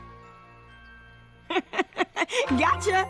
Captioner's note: laugh